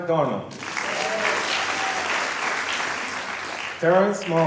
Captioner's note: applause